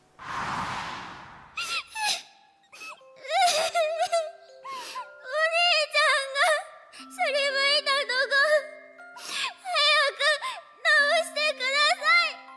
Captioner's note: sniffle; sob